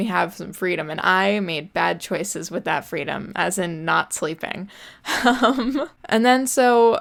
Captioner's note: laughs